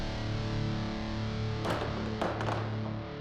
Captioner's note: clattering